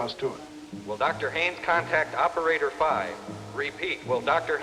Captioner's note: man on PA